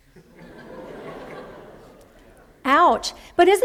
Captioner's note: laughter